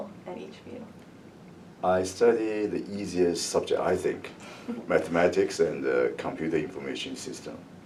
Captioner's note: laughs